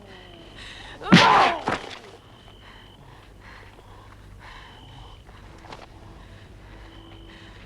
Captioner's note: Hundra growls; Torente groaning; Torente groans